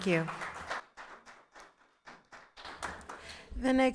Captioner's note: attendees applauding